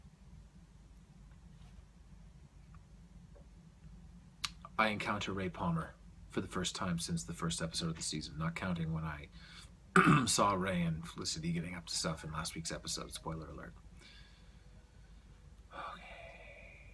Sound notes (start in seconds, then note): 9.9 clears throat; 14.8 whispers